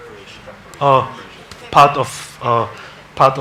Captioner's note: man speaks off mic